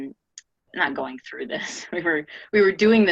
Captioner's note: laughs